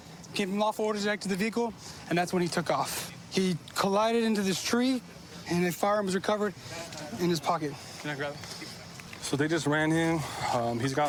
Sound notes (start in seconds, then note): none